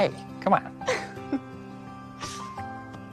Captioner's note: laughs